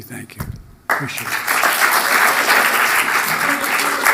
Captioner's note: applause